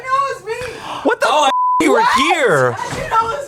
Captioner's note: beep